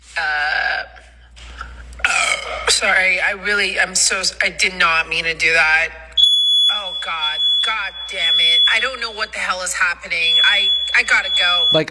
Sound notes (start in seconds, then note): 2.0 speaker burps; 6.1 fire alarm beeping